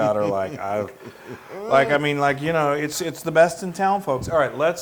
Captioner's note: laugh